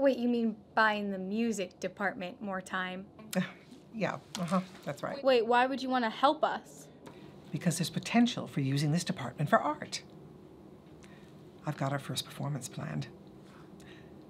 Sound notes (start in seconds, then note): none